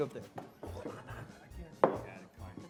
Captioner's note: Zeke stomps